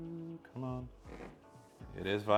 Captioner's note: controller buzzes